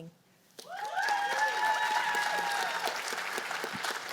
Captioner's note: cheers and applause